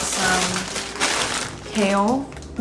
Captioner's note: bag crinkling